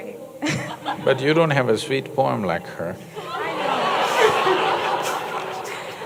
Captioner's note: laughter/Applause